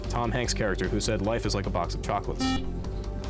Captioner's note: beep